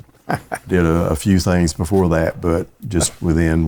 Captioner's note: laughing